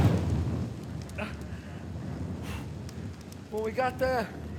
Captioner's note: fire crackles